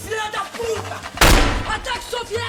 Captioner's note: gunshot